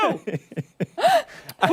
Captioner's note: laughter